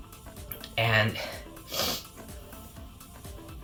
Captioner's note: sniffles